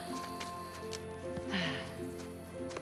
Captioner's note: sighing